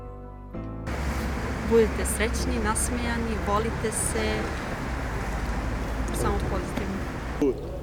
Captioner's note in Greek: Μιλάει Σερβικά